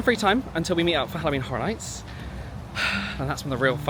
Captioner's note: sighs